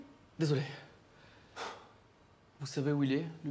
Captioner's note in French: soupir